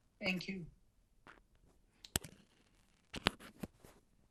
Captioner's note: pauses 10 seconds